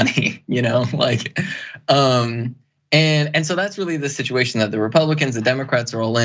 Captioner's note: laugh